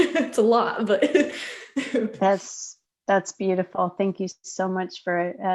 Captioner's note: laughter